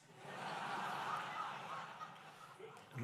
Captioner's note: laughter